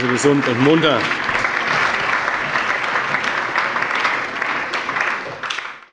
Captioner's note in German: Allgemeiner Beifall